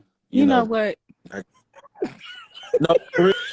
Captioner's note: laughter